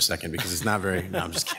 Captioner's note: members laughs